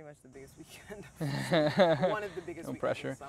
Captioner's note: laughs